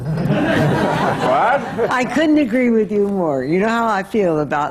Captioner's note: laughter